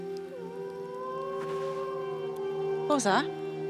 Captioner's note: animal howls